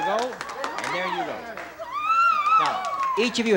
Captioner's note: ebullient scream